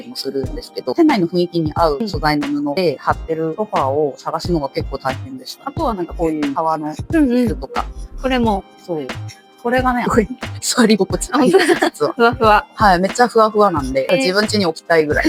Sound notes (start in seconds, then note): 11.3 laughs; 14.1 laughs